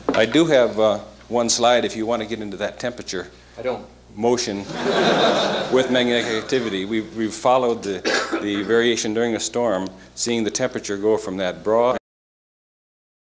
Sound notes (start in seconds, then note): 4.6 laughter